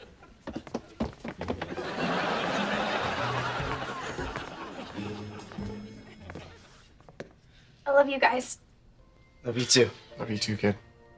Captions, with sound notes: [audience laughing] I love you guys. - Love you too. - Love you too, kid.